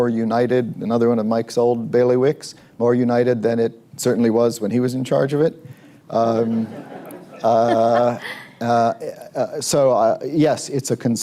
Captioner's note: laughter